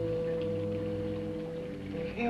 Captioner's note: liquids bubbling